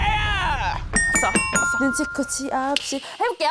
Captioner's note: correct answer sound effect